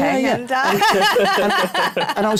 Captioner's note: laughter